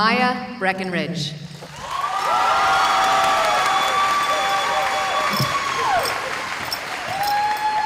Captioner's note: cheering